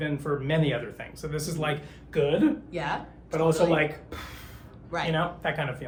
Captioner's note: exhales